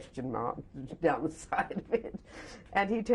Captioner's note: laughs